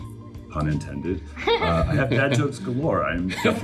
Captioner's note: chuckling